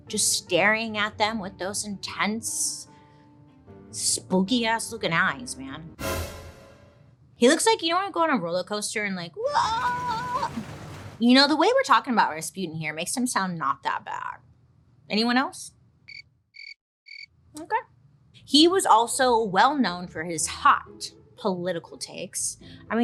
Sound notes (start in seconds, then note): 6.0 sharp dramatic orchestral music; 16.5 crickets chirping